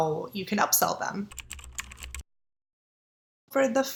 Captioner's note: keyboard typing